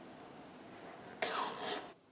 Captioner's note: none